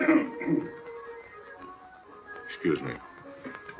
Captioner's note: coughing